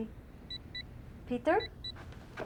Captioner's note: beeping